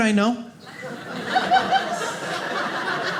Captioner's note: audience laughing